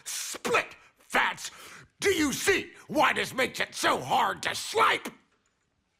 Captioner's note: shouting